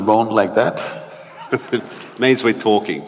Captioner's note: Matthew laughs